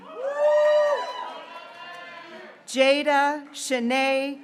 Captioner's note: graduates cheering